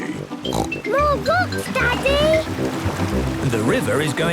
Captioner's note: snorts